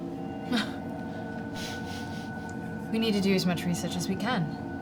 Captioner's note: laughs